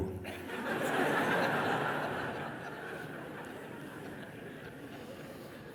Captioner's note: laughter